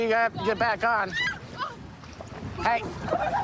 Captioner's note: screaming